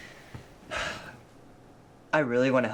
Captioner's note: Marvin chuckles; sighs